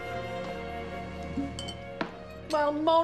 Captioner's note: cork pops off bottle; glass clanking